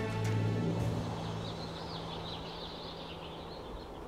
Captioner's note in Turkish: Kuş cıvıltısı sesleri